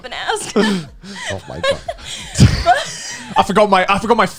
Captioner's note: laughing